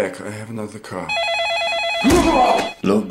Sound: phone rings; man groans

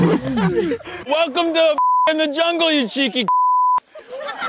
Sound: beep

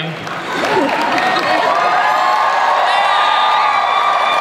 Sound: laughing, cheering

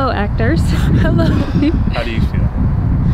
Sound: laughs

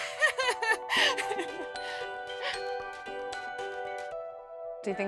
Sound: laughter

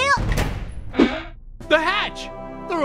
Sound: hatch creaks

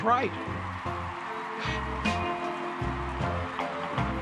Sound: crowd cheering

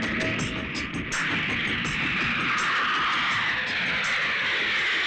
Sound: airplanes Sound

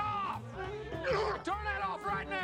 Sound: groans

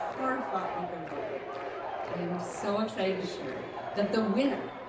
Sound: crowd chanting

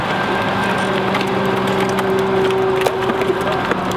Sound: machine whirring

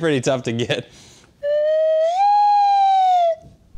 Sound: slide whistle

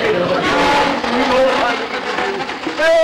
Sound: audience laughter; ladder screeching across floor

